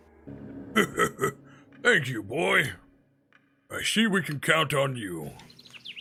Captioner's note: laughs